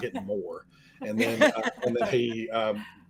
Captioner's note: all laughing